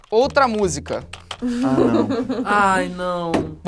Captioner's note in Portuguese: risadas